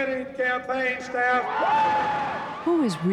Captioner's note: cheering